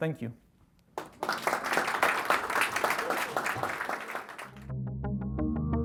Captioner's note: audience applauding